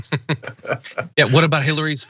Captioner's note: laugh